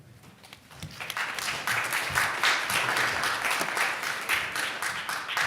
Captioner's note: audience applauding